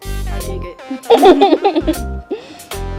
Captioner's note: giggle